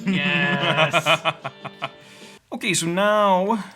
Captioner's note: laughing